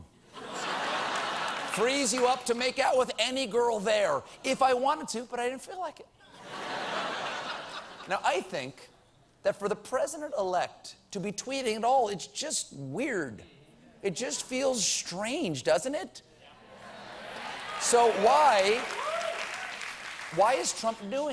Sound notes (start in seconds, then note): 6.2 laughter; 14.8 applause